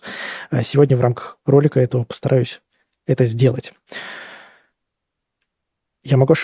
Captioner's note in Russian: тяжело вздыхает; вздыхает